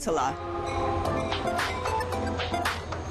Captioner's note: train horn blares